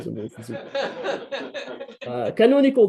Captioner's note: laughter